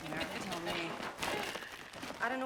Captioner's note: Candace laughs